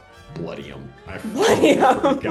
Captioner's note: laughing